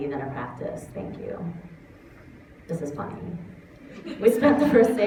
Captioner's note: laughter